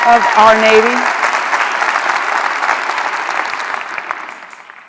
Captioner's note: applause